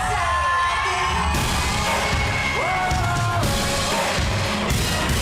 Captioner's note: audience cheering, squealing